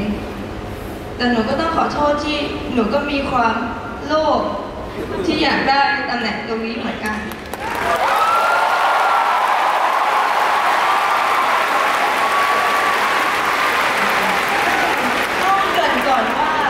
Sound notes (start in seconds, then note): 7.2 the audience cheered for her; 7.5 loud cheering from fans saying it’s okay